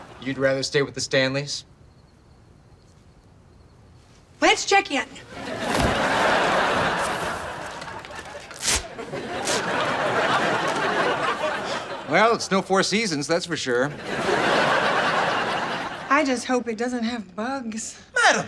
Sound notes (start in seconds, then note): 0.0 laughs; 5.2 laughs; 8.6 sticking noises; 11.1 laughs; 14.0 laughs